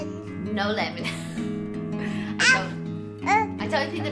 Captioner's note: laughs